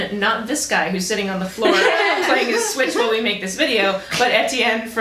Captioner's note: laughter